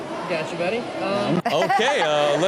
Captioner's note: Chanel laughs